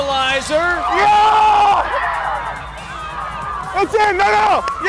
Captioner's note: cheering